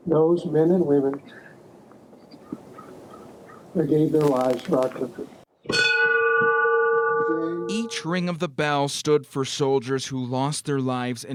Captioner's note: nat -- bell ringing